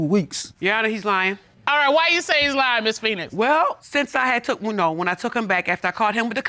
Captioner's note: none